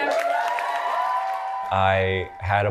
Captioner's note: audience cheering and applauding